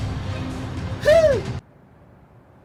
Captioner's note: gasp